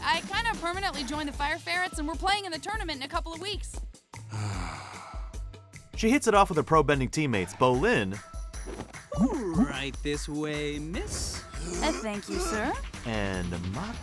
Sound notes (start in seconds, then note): 4.2 sighing